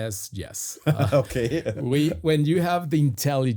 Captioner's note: chuckles